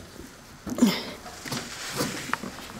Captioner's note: groaning